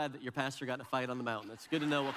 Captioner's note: audience laughs